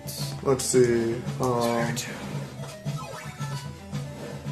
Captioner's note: whispering